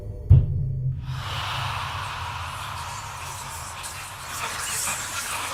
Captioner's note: ghosts whispering